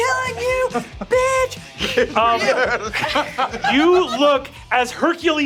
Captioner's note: hisses